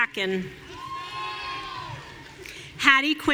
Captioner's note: audience cheering